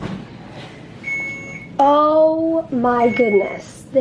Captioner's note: beep! beep!